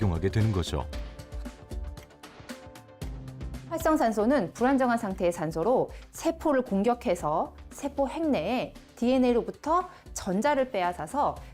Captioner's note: voiceover